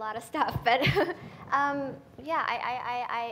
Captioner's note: laughing